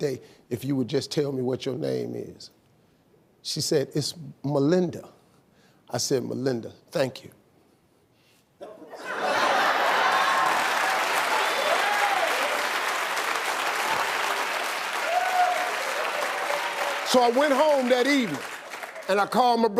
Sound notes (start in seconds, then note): 8.7 audience laughing; 9.2 audience applauding